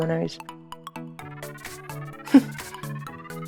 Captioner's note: laughs